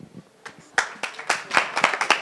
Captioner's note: applause